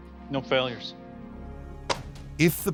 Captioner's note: popping